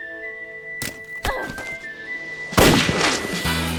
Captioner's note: gun drops; gunshot